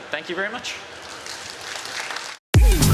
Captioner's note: applause